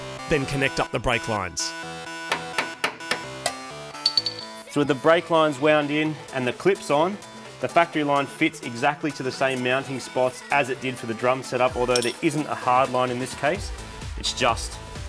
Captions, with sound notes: Then connect up the brake lines. [tapping] [clattering] So with the brake lines wound in and the clips on, the factory line fits exactly to the same mounting spots as it did for the drum set up. Although, there isn't a hard line in this case. It's just